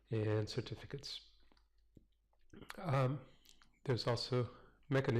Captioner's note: pause